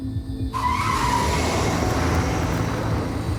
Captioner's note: tyres screeching